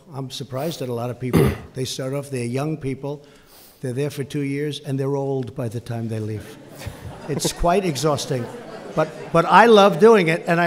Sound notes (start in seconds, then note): 6.5 laughter